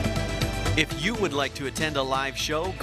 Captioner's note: voiceover